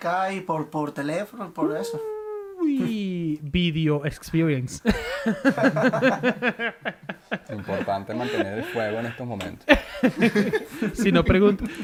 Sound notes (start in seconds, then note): 8.5 laughs